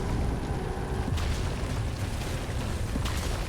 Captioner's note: earthy anomalous explosions